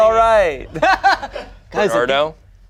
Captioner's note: laughs